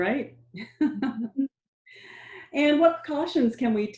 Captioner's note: laughing